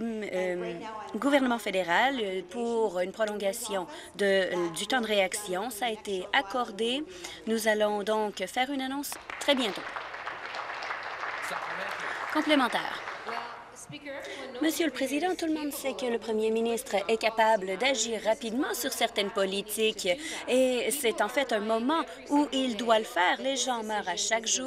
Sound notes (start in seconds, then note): 12.0 applause